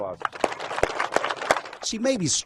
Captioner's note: players applauding